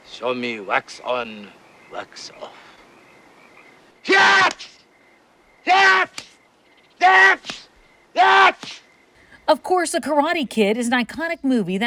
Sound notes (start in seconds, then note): 5.6 Sensei screaming